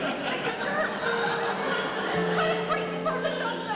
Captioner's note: audience laughing